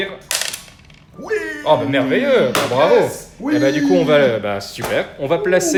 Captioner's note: shouts of Enlightened joy